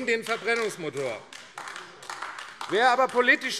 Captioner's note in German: Beifall AfD